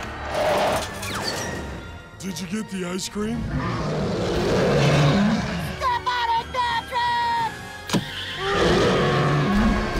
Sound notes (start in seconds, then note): 3.4 roaring; 8.4 screaming